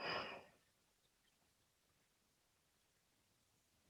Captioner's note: deep breathing